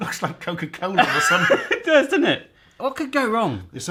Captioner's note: laughs